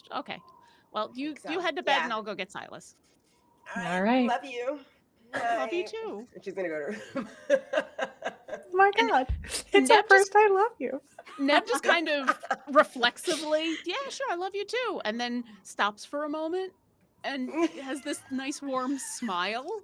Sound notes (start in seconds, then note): 7.0 laughing; 11.2 laughing